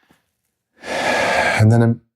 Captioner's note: sighs